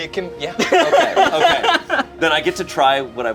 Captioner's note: laughs